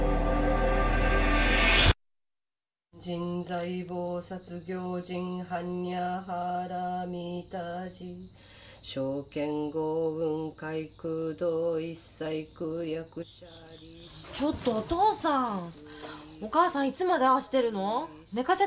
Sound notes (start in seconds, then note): 3.1 chanting